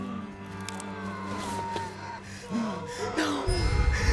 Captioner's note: pale woman shrieking